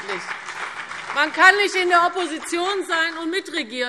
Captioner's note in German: Beifall CDU und BÜNDNIS 90/DIE GRÜNEN